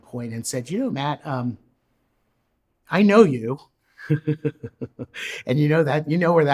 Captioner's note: laughs